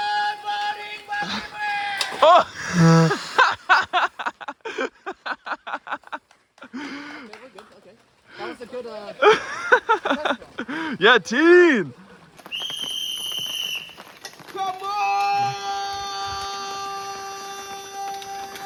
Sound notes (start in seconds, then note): 2.2 laughing; 12.5 whistle blowing